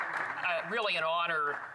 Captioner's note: some Applause